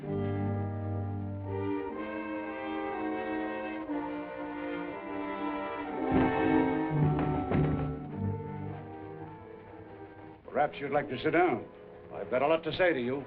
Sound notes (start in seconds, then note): 5.7 rattles